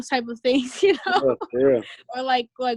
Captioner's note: laughing